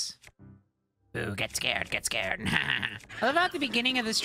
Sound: Green Goblin Voice

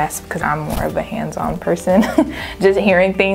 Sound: laughs

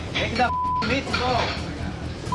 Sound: beep

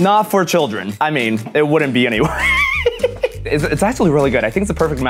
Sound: laughs

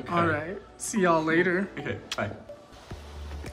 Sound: kisses

